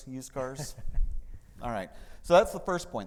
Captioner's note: laughing